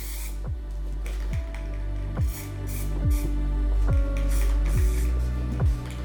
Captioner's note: spray cane hissing